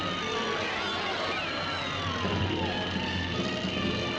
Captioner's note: crowd screaming